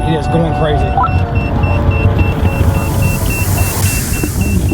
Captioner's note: detector beeping